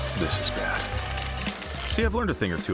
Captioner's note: shell cracking